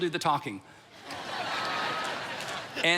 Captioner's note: congregation laughs